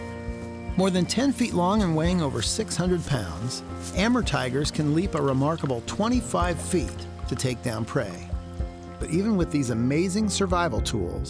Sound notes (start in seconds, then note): none